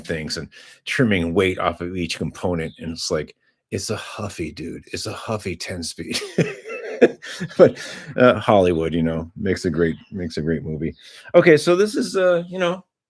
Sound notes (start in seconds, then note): 6.0 laughter